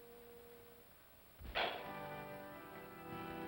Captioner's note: pop sound; organ plays slowly